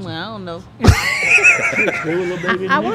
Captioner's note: laughing